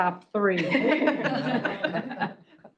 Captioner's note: laughter